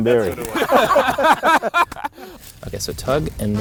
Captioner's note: all laugh